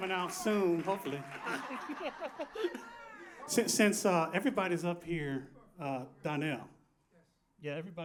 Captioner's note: applause